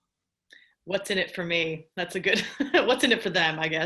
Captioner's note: laughs